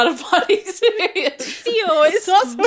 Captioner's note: laughing